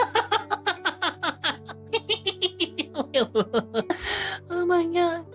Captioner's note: laughing